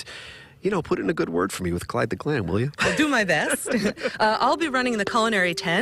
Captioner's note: laughter